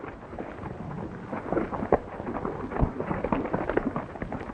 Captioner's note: horses galloping